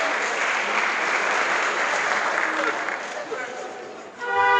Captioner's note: crowd applause